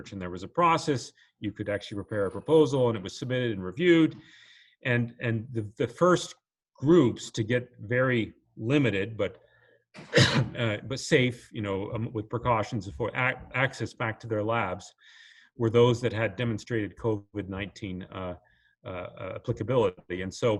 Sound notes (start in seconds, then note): 10.0 coughs